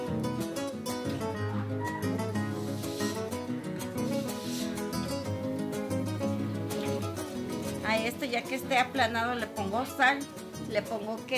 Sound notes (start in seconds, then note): 7.9 speaking Spanish